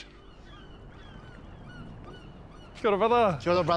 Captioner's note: gulls squawk